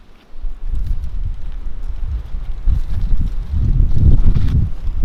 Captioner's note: wind blowing